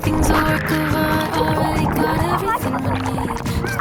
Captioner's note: underwater fx